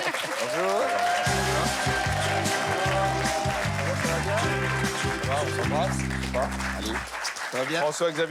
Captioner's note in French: applaudissements